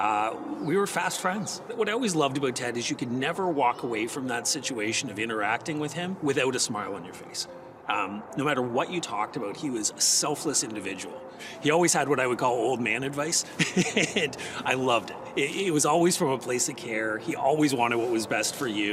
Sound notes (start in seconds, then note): 13.5 laughs